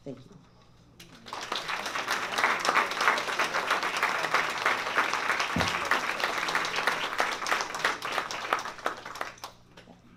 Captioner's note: applause